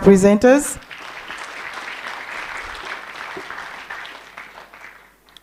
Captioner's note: applause